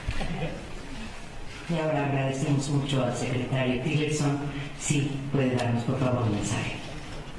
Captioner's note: in Spanish, via interpretation